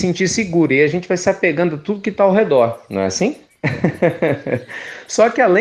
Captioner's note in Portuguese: Risos